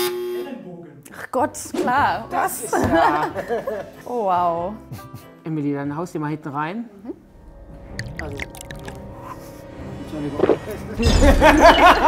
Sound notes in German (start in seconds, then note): 2.3 lacht; 10.8 Schlucken, Lachen